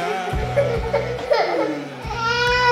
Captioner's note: crying